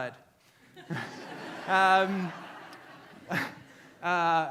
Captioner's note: audience laughs